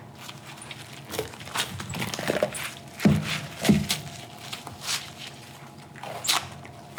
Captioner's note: louder sticky peeling and rolling